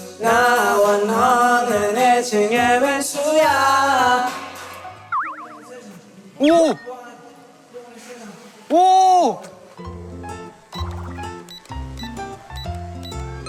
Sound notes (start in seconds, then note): 6.3 surprised voice; 10.8 machine sounds